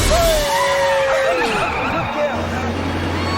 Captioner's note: Alice laughing